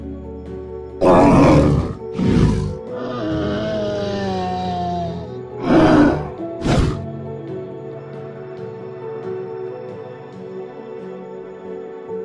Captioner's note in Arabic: أصوات ترايسيراتوبس